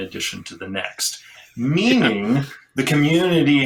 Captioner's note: laughs